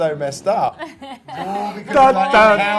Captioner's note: laughs